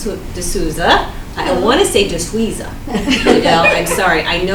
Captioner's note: everyone laughs